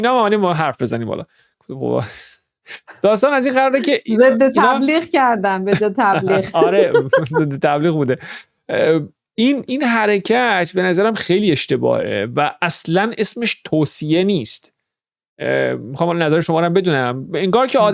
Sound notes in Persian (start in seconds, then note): 5.6 خنده